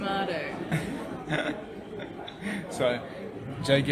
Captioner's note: laughing